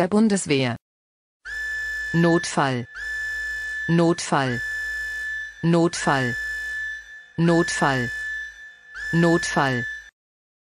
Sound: siren

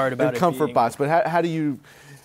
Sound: laughs

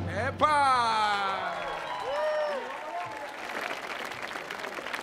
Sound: audience applauding

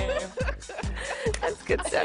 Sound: laughter

